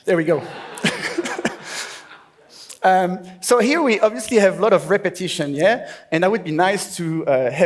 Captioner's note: laughs